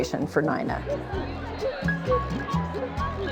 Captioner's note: indistinct chatter and laughter